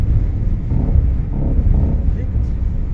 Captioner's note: scary sounds